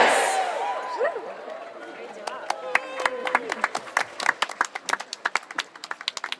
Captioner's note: audience cheering and applauding